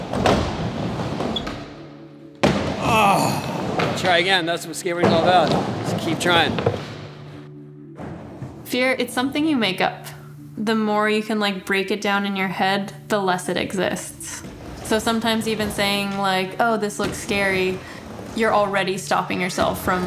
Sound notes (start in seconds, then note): 2.7 Tony groans